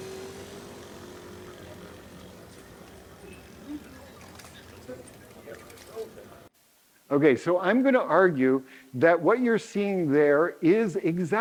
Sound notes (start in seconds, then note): 5.0 people chattering faintly